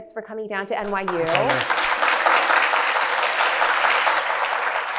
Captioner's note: audience applauds